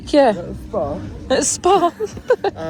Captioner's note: laughs